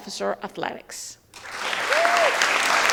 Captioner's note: audience applauding